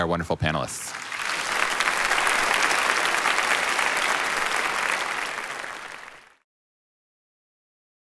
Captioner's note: applause